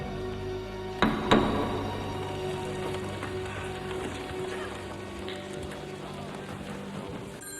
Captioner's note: dramatic music; gavel knocking; group clattering